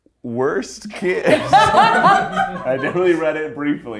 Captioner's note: everyone laughs